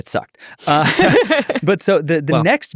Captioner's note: all laughing